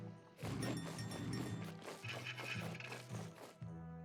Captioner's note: bell ringing